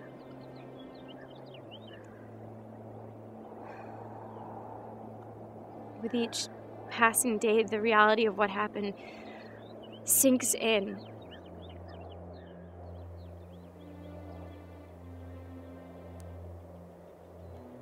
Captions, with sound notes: (sighs) With each passing day, the reality of what happened sinks in.